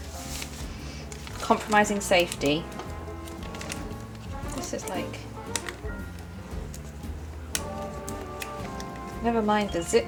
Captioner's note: fumbles with bag